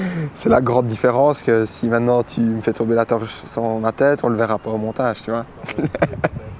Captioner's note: laughs